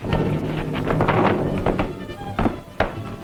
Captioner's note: blow thuds; suspenseful orchestral music